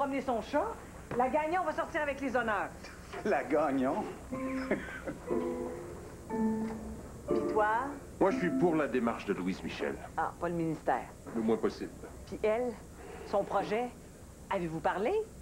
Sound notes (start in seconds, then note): 4.5 Ils rient